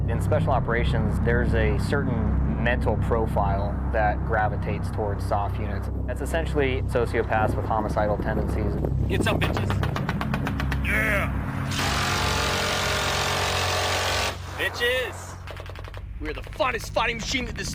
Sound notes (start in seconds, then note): 10.0 gunfire bursts; 11.8 machine gun rattles; 15.3 gunfire rattles